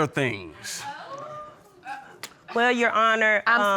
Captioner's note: audience exclaiming